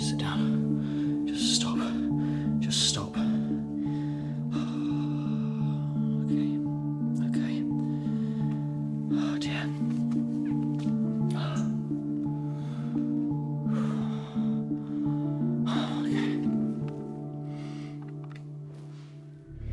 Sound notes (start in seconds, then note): 3.2 heavy breathing; 11.6 ominous music continues; 12.2 heavy breathing